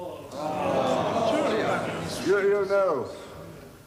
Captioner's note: dissenting voices